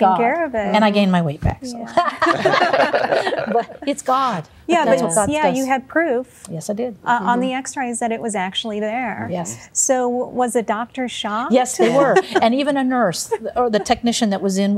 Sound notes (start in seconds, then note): 1.9 laughter; 11.8 laughter